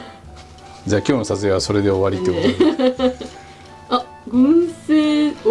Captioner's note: laughs